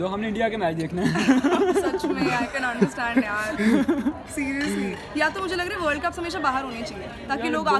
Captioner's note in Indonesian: tertawa